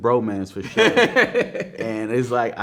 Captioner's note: man laughing